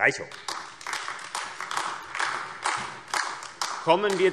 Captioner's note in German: Beifall AfD